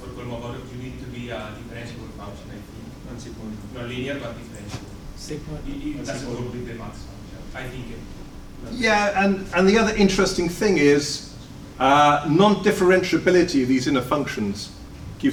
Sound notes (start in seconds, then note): 5.6 audience talks amongst themselves